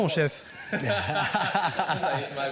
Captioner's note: both laughing